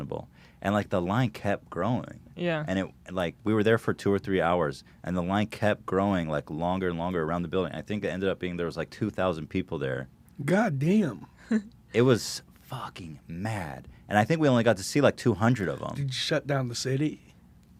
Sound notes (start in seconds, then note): none